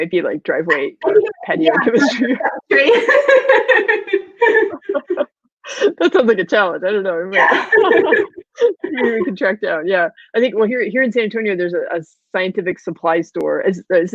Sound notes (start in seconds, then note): 2.6 laughing; 7.4 laughing